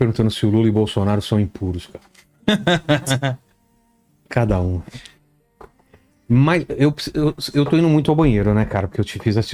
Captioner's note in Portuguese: risadas